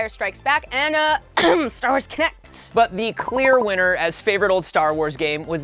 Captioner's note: cough